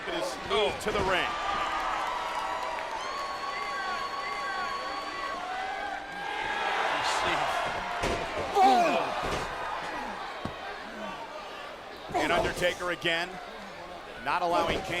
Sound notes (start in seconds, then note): 2.1 audience cheering; 8.5 Kane grunts